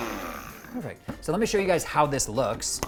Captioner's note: lid popping